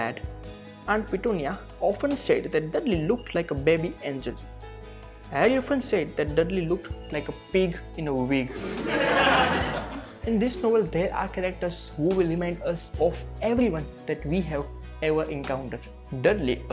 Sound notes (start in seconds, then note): 8.5 crowd laughing